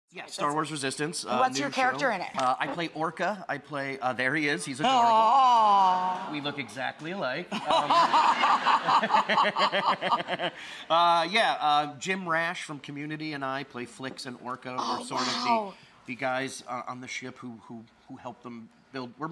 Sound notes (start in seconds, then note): 4.9 awws; 7.6 laughs